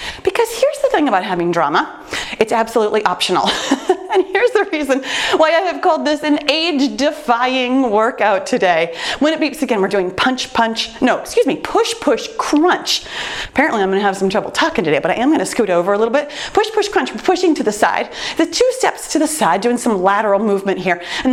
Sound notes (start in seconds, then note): 3.4 laughs